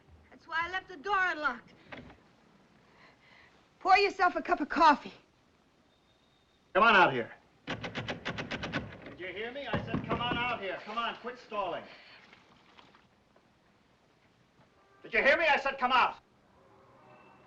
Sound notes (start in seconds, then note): 7.6 door handle rattling